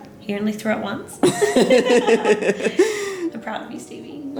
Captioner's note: both narrators laughing